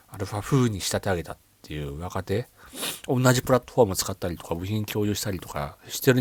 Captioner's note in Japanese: 鼻息